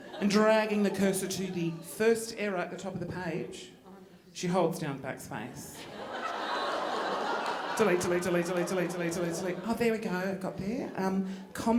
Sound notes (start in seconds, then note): 5.8 audience laughing